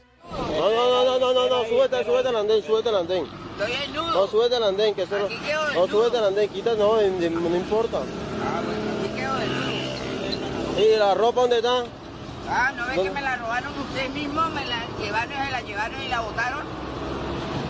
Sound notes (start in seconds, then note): 0.2 officer speaks in foreign language; 10.7 officer speaks in foreign language